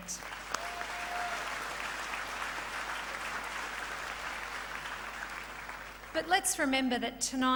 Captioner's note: applause form the crowd